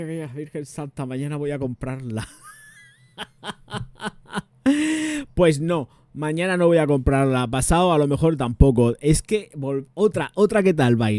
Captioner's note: laughs